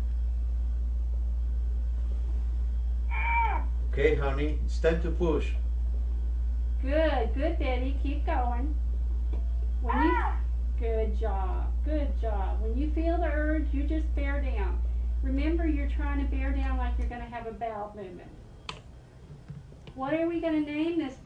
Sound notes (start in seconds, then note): 3.0 Manikin moans